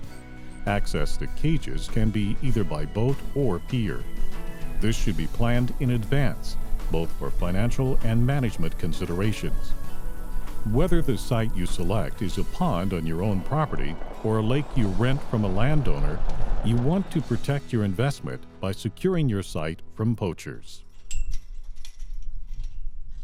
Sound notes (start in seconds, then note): 20.8 chain sound